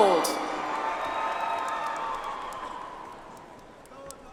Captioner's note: audience applauds